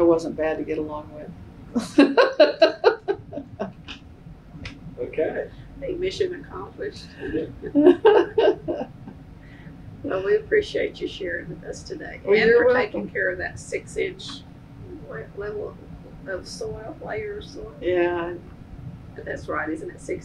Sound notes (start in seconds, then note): 6.9 laughs